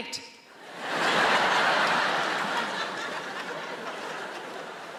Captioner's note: audience laughs